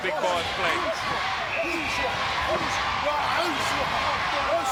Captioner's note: crowd chanting "USA!"